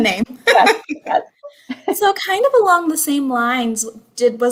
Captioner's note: laughter